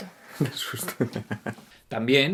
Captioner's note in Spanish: Risas